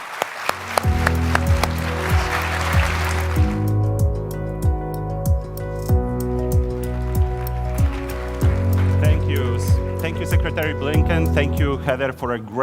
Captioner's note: applause